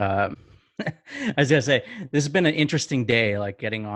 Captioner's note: laughs